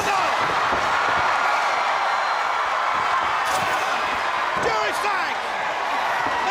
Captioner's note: crowd cheering